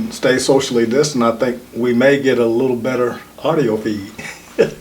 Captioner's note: chuckles